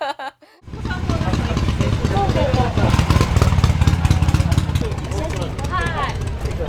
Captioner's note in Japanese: エンジンの音